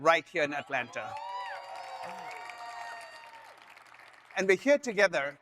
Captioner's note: audience cheering